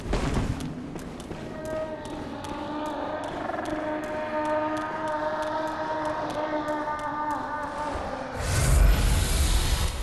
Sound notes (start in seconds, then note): 1.2 Oceiros screaming